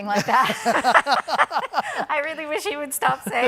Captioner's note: all laugh